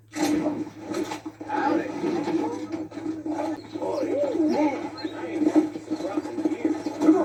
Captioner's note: people talking